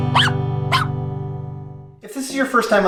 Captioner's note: dog barking